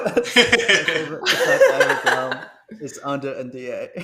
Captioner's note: laughter